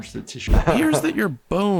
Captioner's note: laughing